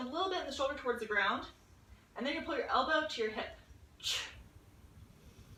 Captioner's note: audible exhale